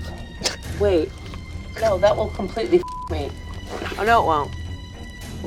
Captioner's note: beeps